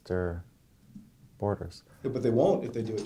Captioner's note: voiceover